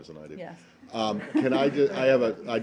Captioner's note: laughter